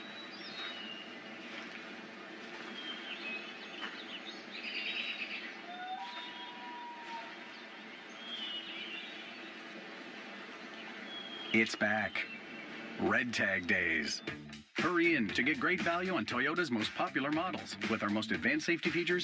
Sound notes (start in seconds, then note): 0.6 loon calling; 5.2 birds chirping; 7.6 loon calling